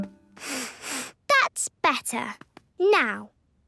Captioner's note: sniffs